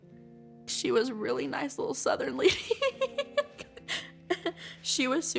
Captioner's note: laughs